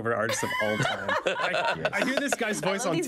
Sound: all laughing loudly

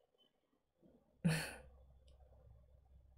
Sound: chuckles

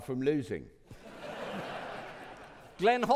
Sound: audience laughing

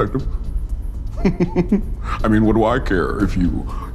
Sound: laughs

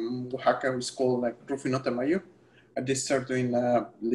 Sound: speaking spanish

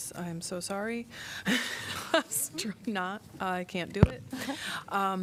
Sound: laughter

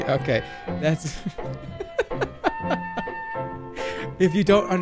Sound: laughs

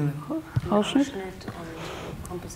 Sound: speaks German; speaks in German

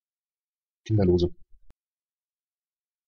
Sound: fast Pronunciation

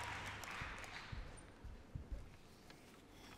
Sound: applause

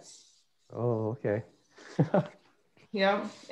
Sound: laughs

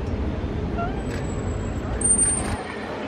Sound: trainer blows whistle

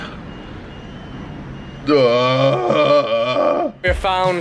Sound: burps

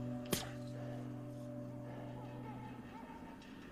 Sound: distant dog barks

